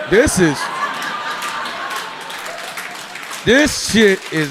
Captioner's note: audience laughing